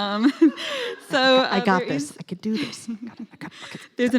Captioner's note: laughing